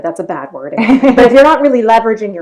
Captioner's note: female laughing